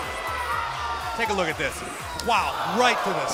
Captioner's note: crowd chatter